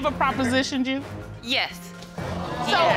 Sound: audience gasping

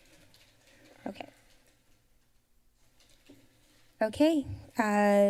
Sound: silence

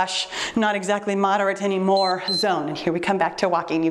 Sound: timer beeps

